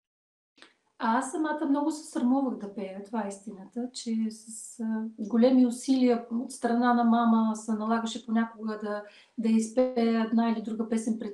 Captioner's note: foreign Language followed by English Interpreter